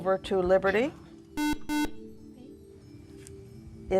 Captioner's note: beeping